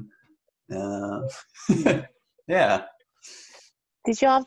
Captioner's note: laughs